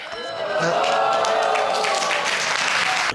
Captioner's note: crowd cheering